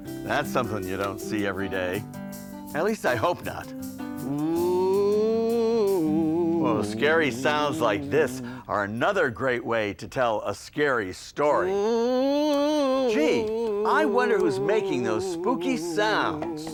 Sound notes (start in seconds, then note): 4.2 ghostly moaning; 11.7 ghostly moaning